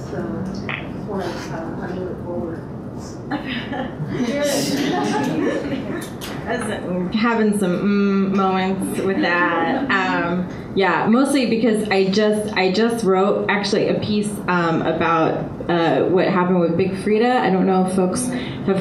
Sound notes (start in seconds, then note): 3.3 audience laughter